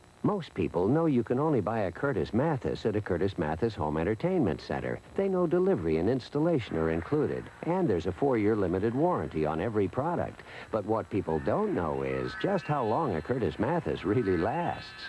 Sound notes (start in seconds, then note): 7.5 TV sounds begin in background; 14.8 TV sounds continue